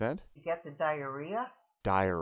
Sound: voiceover

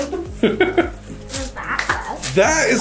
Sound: laughing

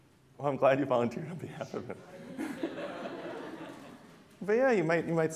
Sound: laughter

